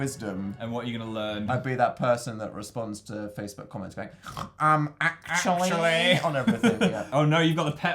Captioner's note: snorts